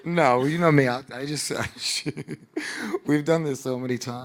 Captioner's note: laughing